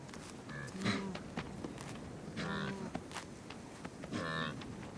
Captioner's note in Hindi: जानवरों की आवाज़ें